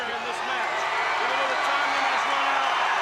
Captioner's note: crowd cheering